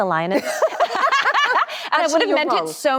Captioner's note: both laugh cheerfully